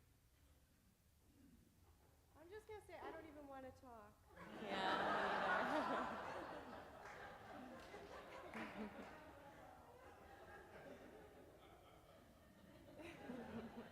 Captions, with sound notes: - I'm just gonna say I don't even wanna talk. - Yeah, me neither. (audience laughs)